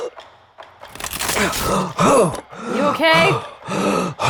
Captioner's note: groans and gasps